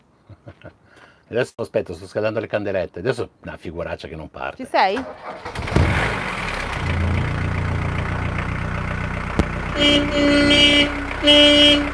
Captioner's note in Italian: Motore e clacson